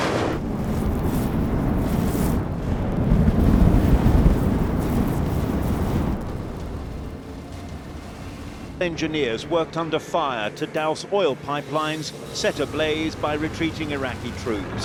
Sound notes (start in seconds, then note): 2.1 fire blazing